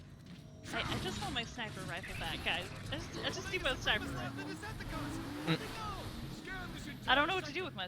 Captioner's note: laughs